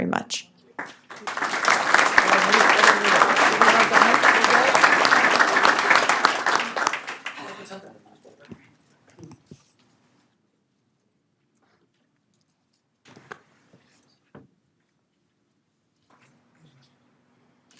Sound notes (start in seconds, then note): 10.3 applause